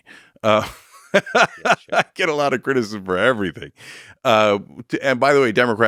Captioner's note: laughs